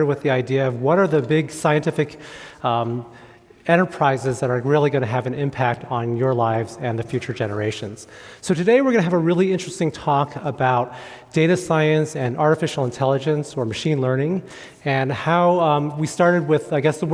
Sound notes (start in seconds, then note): none